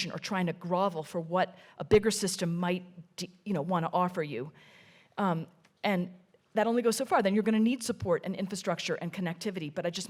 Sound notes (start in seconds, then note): none